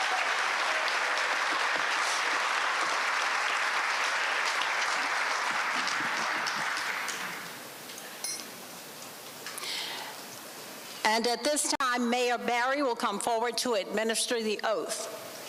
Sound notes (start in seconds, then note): 0.0 applause